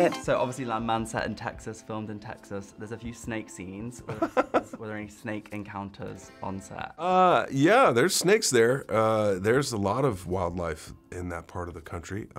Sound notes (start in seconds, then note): 4.0 laughter